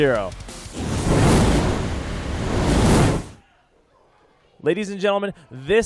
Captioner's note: sizzling fire sound